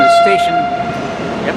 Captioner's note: train horn sounds